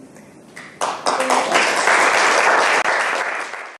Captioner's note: audience applauding